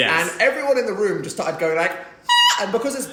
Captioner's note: shrieks